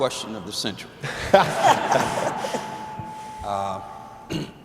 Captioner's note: laughter